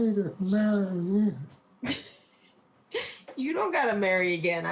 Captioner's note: chuckles